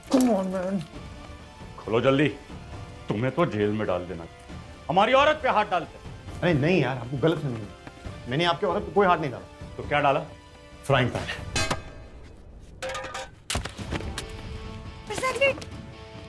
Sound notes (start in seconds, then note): 11.5 Banging sound; 13.5 Thud on ground